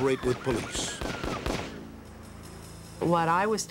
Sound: gunshots

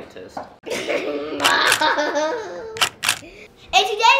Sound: laughs

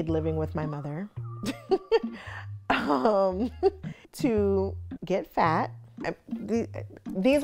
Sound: chuckles

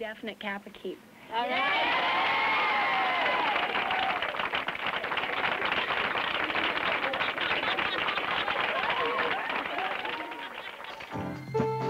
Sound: applause and cheering

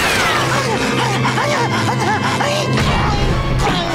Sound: panting

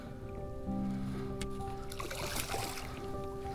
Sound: breathing

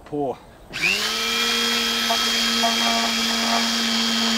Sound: machine whirring

